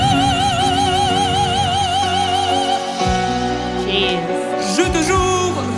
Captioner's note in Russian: крик